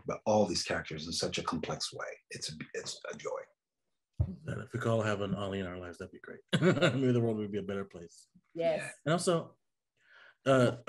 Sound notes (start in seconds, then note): 6.4 laughs